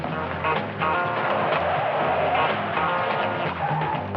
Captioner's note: tires screeching